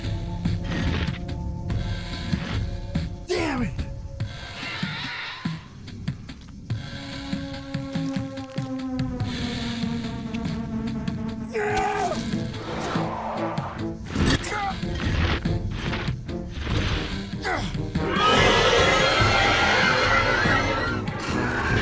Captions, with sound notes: [Stone grinding] Damn it! Aaahhh! [Grunts, groans] [Stone grinding] [Loud roar]